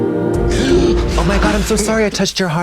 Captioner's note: Ben gasping